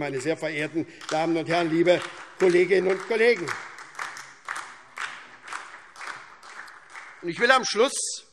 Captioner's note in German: Beifall SPD und vereinzelt DIE LINKE